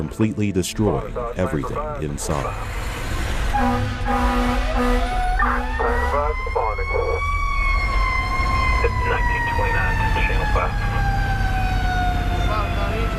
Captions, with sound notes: completely destroying everything inside. (fire engine honks) (fire engine alarm blares)